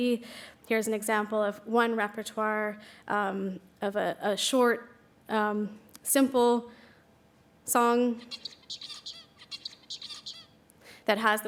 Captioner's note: bird singing